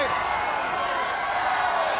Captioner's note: crowd chatter